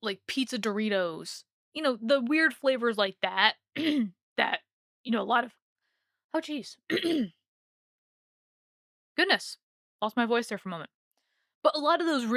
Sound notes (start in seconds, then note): 3.4 clears throat; 6.9 clears throat harder